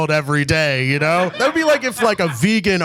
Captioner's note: audience laughs